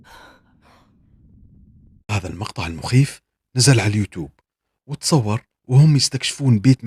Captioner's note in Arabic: تنهّد